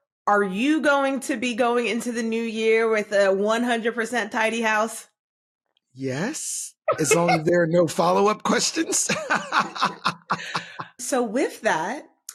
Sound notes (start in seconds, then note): 8.5 laughter